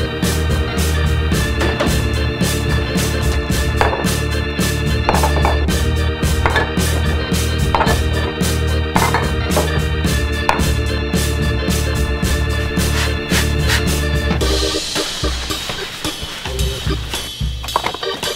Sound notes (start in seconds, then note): 0.0 chair scraping floor; 0.0 upbeat lively music; 1.1 hand patting TV; 1.3 upbeat lively music; 3.9 jars clattering on counter; 3.9 upbeat lively music; 12.7 liquid spraying; 13.1 upbeat lively music; 15.5 paper towel scrubbing; 15.5 upbeat lively music; 17.6 can clatters; 17.8 upbeat lively music